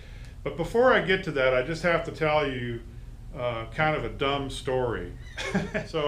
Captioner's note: laughs